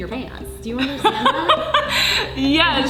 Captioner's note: laughing